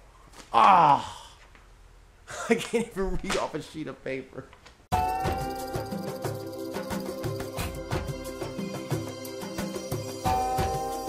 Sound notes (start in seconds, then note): 2.3 laughing